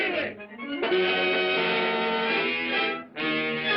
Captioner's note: Goldie honks